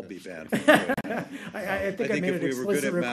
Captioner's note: laughter